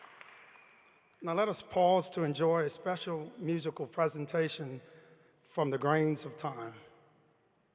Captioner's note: applause